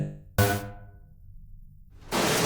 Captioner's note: Aqilah shooting lasers; metal crashing loudly